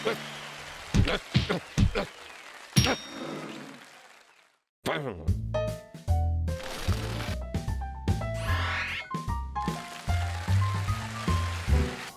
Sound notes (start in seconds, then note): 0.3 grunting; 2.4 audience gasps; 9.6 cheers and applause